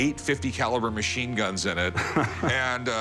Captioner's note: laughs